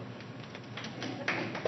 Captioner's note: applause